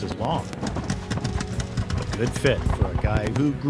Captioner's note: fireworks popping